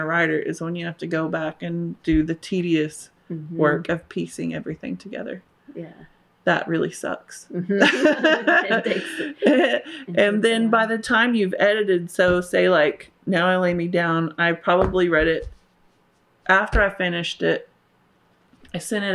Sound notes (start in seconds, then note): 7.8 laughter